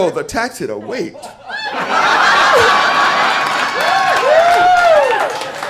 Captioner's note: audience applauds